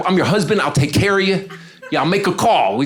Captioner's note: audience laughing